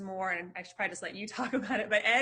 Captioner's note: chuckles